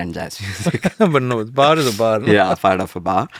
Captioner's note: laughs